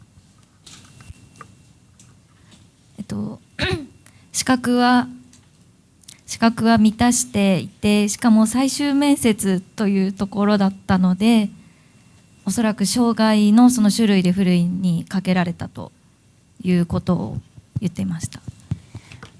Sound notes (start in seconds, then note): 6.4 speaking japanese